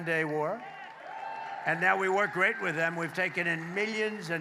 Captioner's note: applause